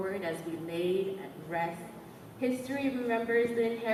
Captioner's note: none